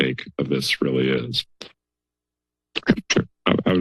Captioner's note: silence